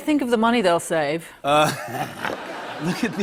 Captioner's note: laughter